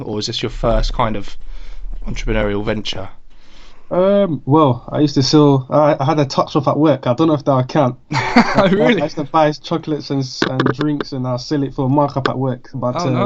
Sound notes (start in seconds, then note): 8.1 laughs